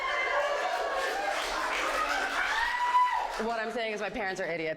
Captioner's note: audience cheers